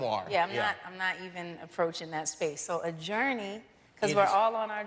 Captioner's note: laughter